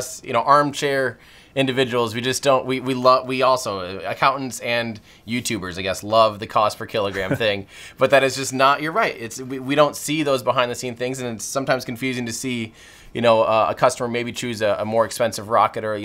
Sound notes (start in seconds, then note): 7.0 Peter laughs